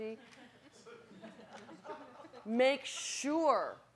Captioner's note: audience laughing